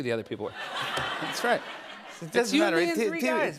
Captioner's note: laughter